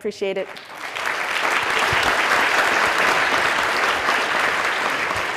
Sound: audience applauding

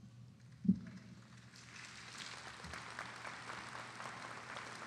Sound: audience applauding

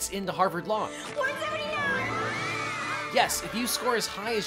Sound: screams in delight

